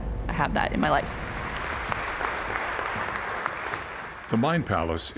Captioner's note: crowd applause